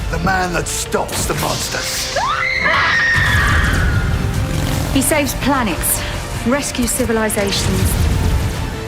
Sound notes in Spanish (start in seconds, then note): 2.1 gritos